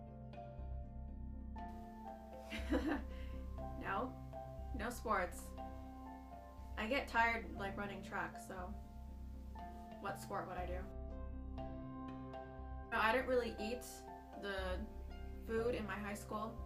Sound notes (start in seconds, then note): 2.5 laughs